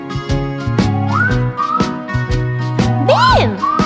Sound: whistling

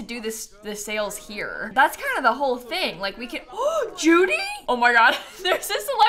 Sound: gasps

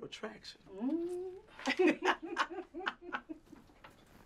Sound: laughs

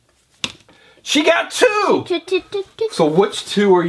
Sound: voiceover

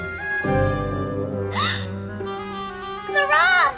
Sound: gasp

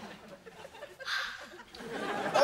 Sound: sighs

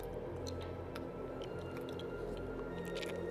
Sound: squelches

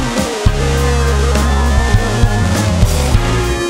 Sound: audience cheers

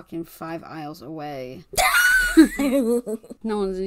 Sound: laughs

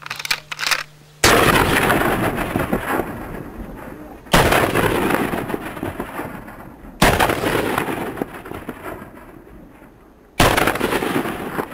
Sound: sounds of shooting

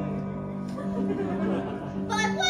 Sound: laughter

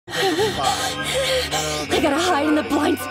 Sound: laughs

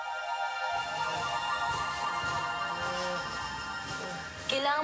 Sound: Shadow groaning

